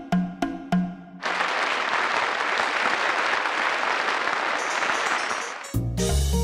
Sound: applause

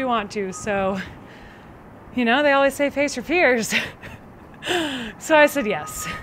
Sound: laughs

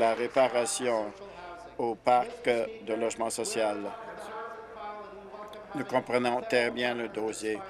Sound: applause

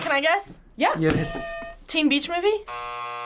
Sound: bell rings; buzzer rings

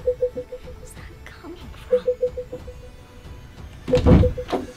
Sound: whispers; beeping grows louder

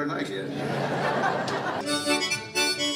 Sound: audience laughing

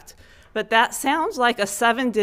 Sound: none

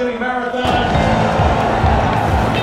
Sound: starting line gun; cheers

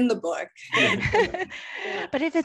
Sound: laughter

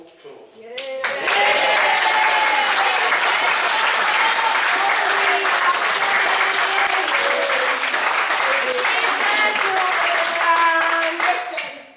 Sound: applause

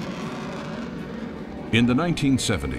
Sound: jet flying

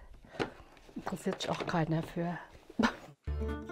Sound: she laughs; lively music

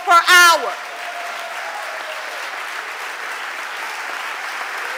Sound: audience applauding

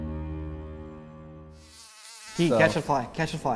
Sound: fly buzzing

